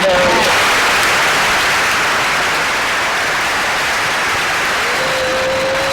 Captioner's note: audience applause